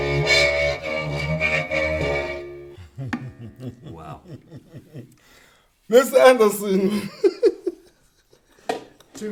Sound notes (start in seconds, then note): 2.7 chuckles; 6.4 laughs